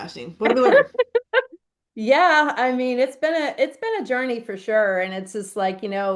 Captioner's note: laughs